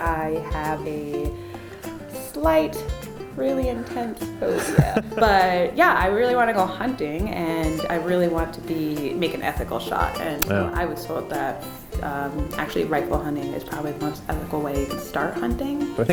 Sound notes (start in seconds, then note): 4.5 laughs